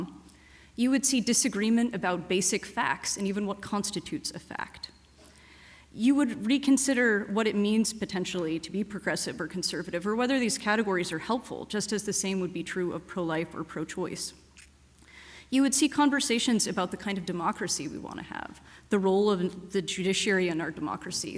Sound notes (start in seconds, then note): none